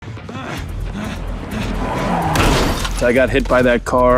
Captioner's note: runner groaning